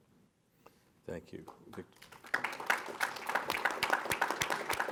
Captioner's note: audience applause